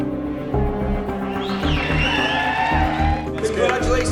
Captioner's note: crowd cheers